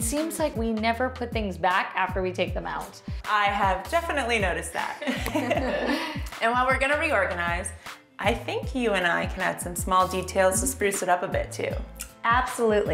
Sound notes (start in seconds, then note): 5.0 laughter